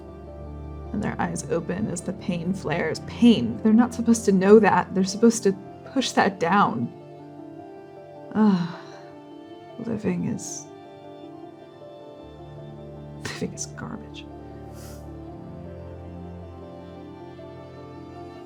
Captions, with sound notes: And their eyes open as the pain flares. Pain? They're not supposed to know that. They're supposed to push that down. Ugh. Living is... Living is garbage. - [amused exhaling]